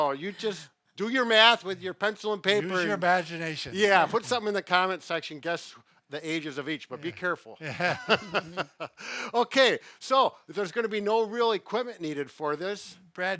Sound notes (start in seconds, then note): 7.6 all laughing